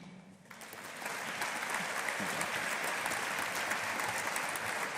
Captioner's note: audience applauding